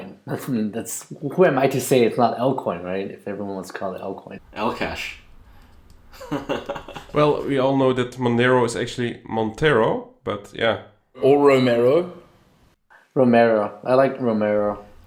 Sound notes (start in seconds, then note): 6.1 laughs